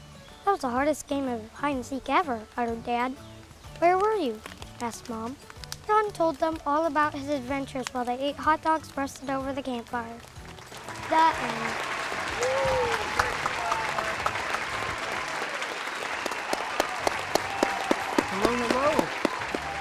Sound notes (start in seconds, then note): 11.9 audience applauds